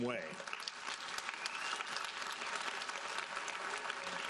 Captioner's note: audience applauding